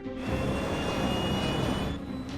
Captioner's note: jet engines straining; suspenseful music sustains